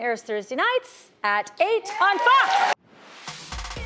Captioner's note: clapping; upbeat music